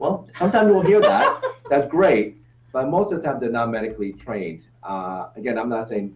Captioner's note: laughs